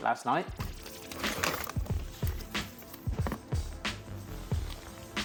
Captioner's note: packaging rustling